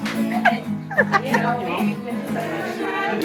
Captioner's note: laughing